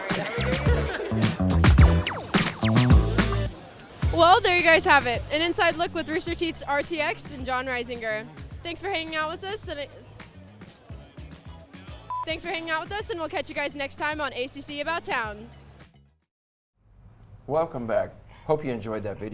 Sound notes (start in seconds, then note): 11.0 upbeat music; 12.1 beep